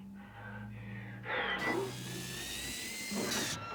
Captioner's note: buzzing